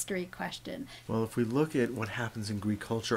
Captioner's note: voiceover